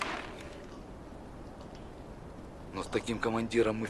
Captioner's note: gust of wind